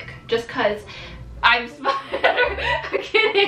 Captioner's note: laughing